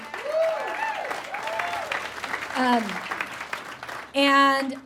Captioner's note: audience whoops and cheers